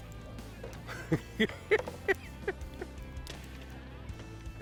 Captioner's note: laughs